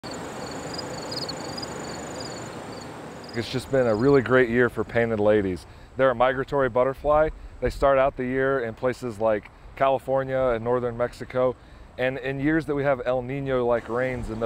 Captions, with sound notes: (birds chirp) It's just been a really great year for painted ladies. They're a migratory butterfly. They start out the year in places like California and northern Mexico. And in years that we have El Nino-like rains